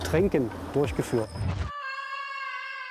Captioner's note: long scream